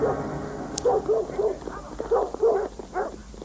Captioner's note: dog barking